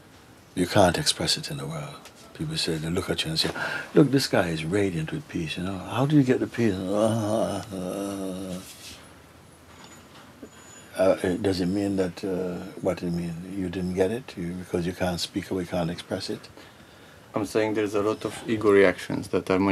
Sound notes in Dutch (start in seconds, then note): 5.6 maakt mompelend geluid